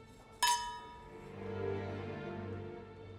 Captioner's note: glasses clink; gentle music